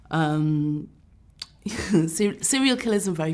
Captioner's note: chuckles